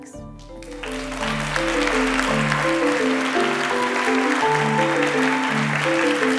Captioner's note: applause